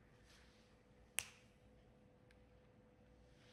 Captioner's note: snaps